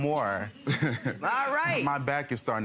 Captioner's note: laughing